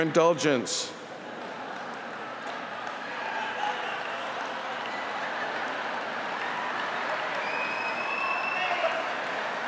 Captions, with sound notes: WHITE BALD MEN SUPPORTING UNITARIAN UNIVERSALISM UNIVERSALISM, AND WE THANK YOU FOR YOUR ILL DULL GENERALS. [APPLAUSE]